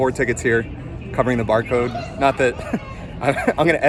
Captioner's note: laughs